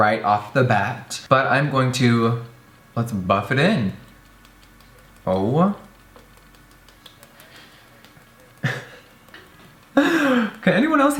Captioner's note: laughs